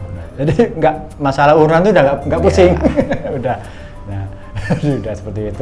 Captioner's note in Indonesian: tertawa